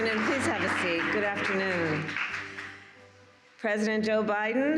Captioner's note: applause